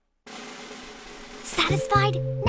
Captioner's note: whispering